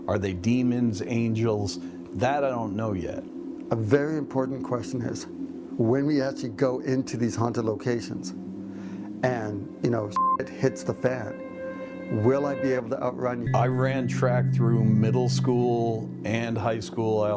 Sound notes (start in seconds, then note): 10.1 beep